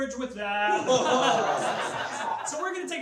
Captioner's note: laughs